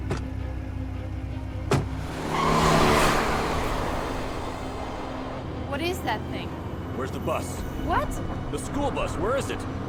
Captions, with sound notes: (tires squealing) - What is that thing? - Where is the bus? - What? - The school bus, where is it?